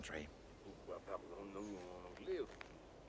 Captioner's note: Berbicara Prancis